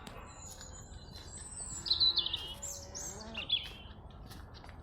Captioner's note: bullocks mooing